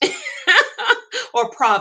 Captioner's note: laughs